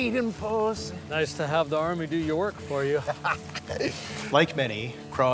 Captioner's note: laughs